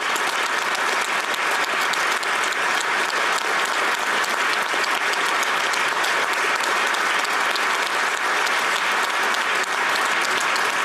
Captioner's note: applause